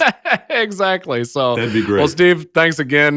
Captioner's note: laughs